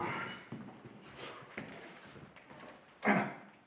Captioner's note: grunting